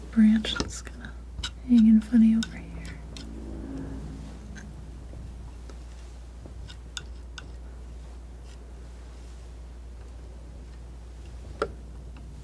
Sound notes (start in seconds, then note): 5.3 scratching